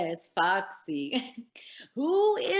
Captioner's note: chuckles